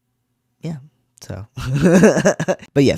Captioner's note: laugh